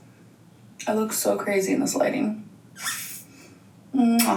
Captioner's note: kiss smooches